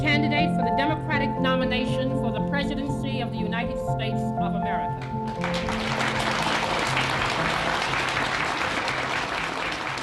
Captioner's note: applause